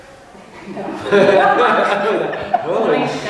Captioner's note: laughs